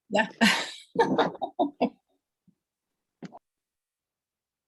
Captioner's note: laughter